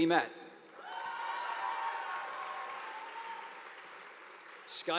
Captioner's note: audience applauding